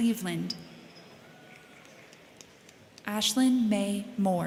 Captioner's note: crowd cheering; crowd clapping